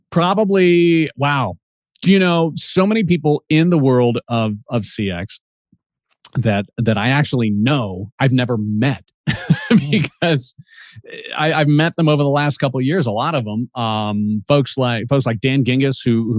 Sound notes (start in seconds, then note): 9.2 chuckles